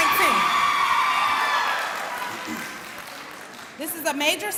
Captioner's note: cheering